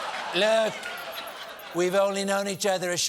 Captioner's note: laughter